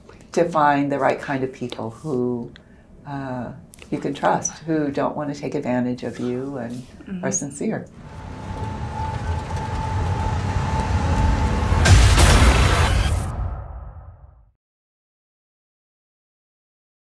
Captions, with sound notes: to find the right kind of people who you can trust. Who don't wanna take advantage of you and are sincere. (car driving) (crashing)